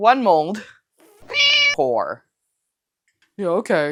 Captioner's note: meow